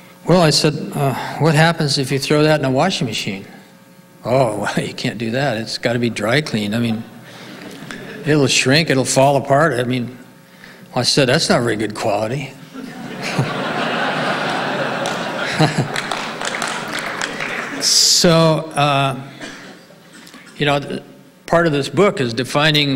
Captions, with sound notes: Well I said, what happens if you throw that in a washing machine? Oh, well, you can't do that. It's gotta be dry cleaned. I mean, it'll shrink. It'll fall apart. I said, that's not very good quality. (audience laughing) So part of this book is defining